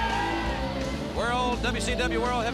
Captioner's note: crowd cheering